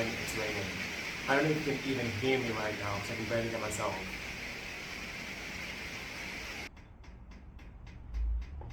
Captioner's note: rhythmic dripping sound